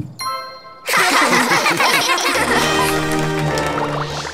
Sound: giggling

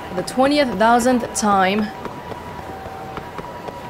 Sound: none

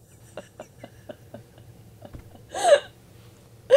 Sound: panel laughing

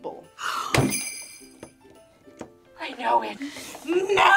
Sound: gasps; bells jingling

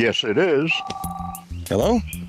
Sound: phone rings

